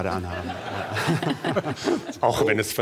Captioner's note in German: Lachen